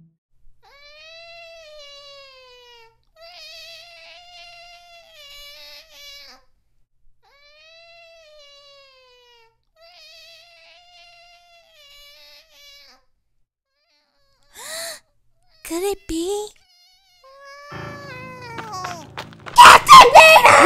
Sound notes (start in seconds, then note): 14.5 gasps; 16.7 meowing as it yawns